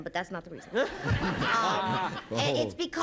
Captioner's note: laughter